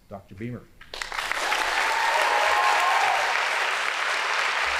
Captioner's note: audience applauding